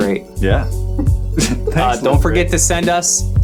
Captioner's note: chuckling